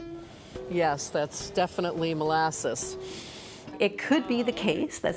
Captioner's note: sniffing